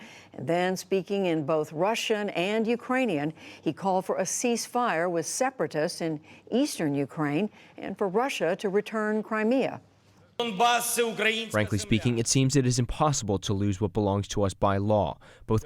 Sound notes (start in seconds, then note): 10.9 through translator